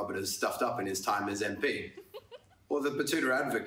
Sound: terri butler laughs

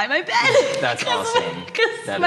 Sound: laughing

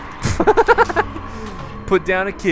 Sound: laughs

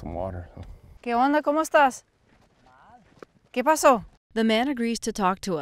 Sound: speaking Spanish

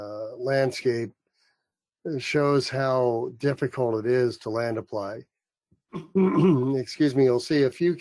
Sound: cough

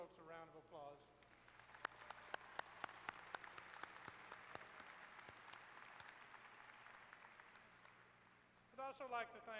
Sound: applause

